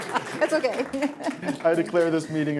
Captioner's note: laughter